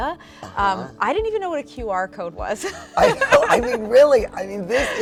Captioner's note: laughs